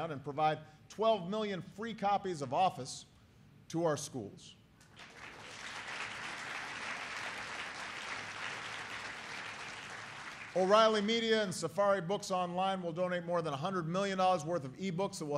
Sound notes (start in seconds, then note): 4.8 applause